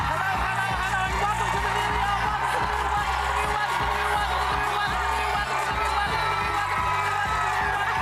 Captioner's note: applause